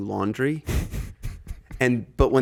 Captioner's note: Justin chuckling